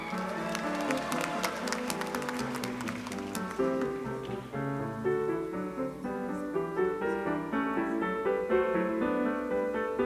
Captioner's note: applause